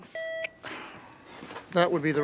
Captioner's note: machine beeping